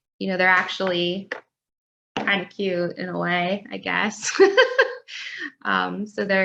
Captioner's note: laughs